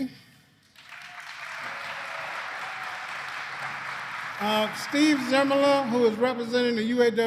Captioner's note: applause